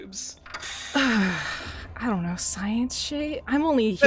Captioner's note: sigh